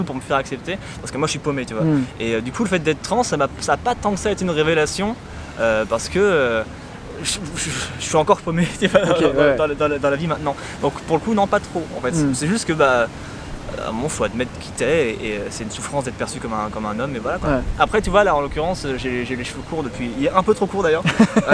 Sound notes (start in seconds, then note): 7.4 laugh